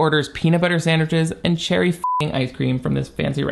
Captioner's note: beep